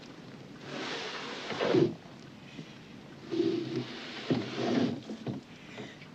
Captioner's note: heavy wooden trunk slides on floor